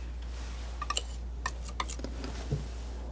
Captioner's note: scratching